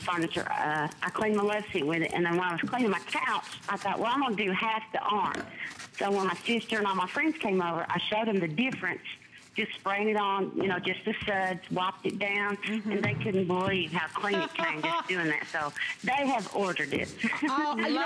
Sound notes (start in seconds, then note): 14.3 laughter; 17.2 laughter